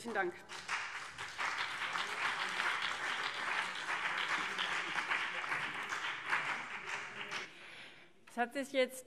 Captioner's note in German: Beifall CDU und BÜNDNIS 90/DIE GRÜNEN